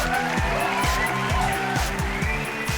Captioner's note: cheering